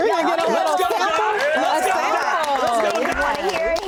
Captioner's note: applause